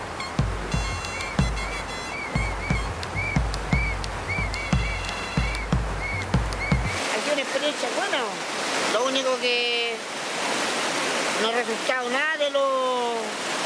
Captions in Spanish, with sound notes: [Silbatos] Ha sido una experiencia buena, lo único que... no ha resultado nada de lo...